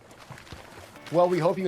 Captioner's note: paper rustles